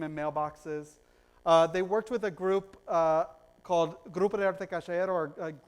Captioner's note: foreign language